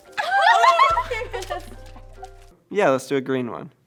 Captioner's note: laughs